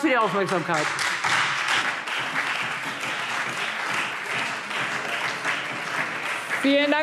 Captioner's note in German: Lebhafter Beifall Freie Demokraten - Beifall SPD und DIE LINKE